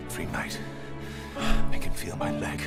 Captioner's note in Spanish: suspiro